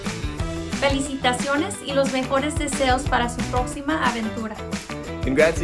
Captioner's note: speaking in foreign language